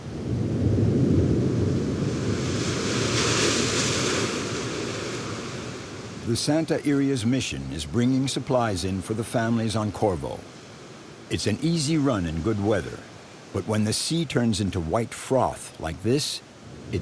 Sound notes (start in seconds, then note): 0.2 thunder rumbling; 2.4 waves crashing